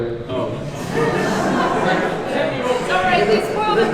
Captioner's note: audience laughs